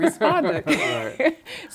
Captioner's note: laughter